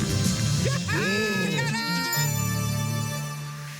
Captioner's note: laughs